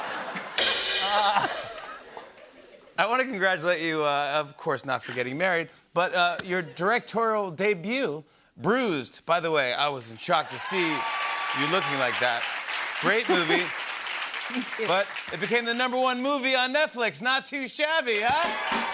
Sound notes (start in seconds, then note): 0.2 rim shot; 10.4 applause; 18.2 cheers and applause